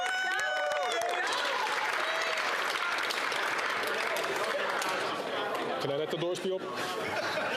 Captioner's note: applause